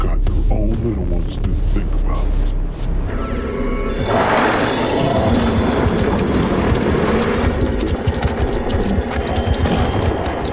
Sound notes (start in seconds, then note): 4.0 Mom scorpion roars; 6.3 ominous music